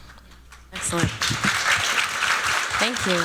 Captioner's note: applause